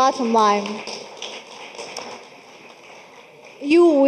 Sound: audience clapping

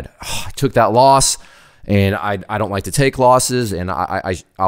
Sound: sighs

